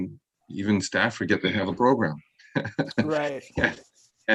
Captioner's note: laughing